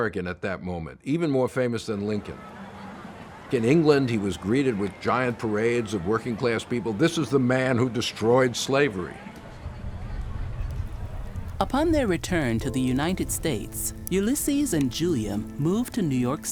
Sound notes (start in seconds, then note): 8.7 large crowd cheering